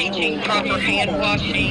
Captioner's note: nats of board meeting